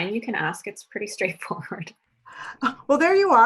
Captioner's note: chuckles